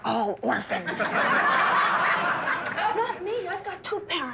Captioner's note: laughter; laughter abates